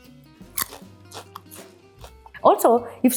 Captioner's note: chips crunch